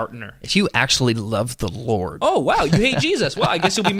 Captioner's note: laughing